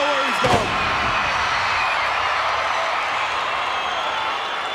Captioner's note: crowd cheering